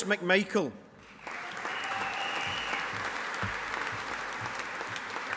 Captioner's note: audience applauding